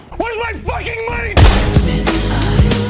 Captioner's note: bang